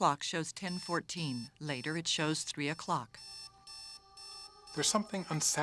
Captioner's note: alarm beeping